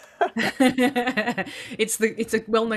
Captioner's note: laughs